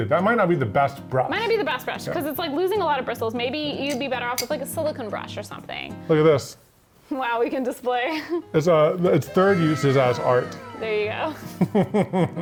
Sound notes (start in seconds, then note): 8.0 laughs; 11.3 laughs